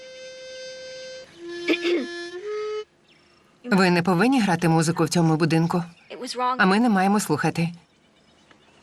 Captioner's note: clearing throat